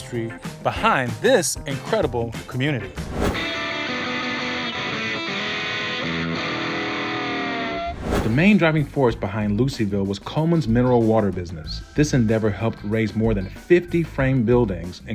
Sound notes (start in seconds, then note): 3.0 air whooshing; 3.2 rock music